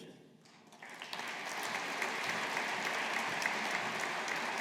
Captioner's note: audience applauding